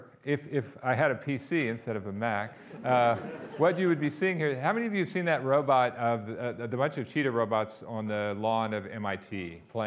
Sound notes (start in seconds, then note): 2.6 audience laughing